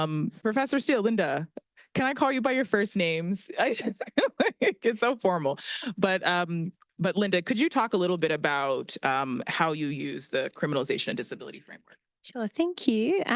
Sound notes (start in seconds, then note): 3.6 laughs